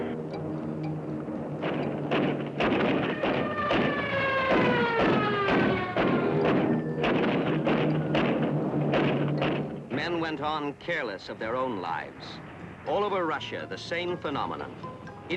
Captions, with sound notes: (engines revving) (gunshots) (gunshots continue) Men went on careless of their own lives. All over Russia, the same phenomenon.